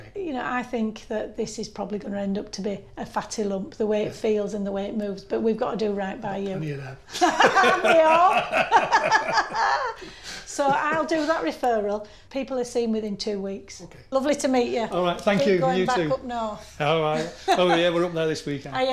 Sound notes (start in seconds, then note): 7.1 laughing